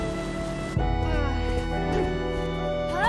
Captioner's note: sighs